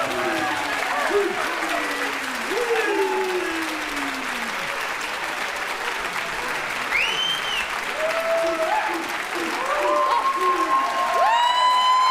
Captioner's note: applause